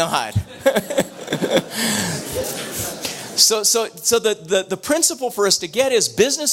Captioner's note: laughs